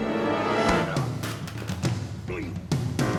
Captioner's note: Preston grunting; high-tension music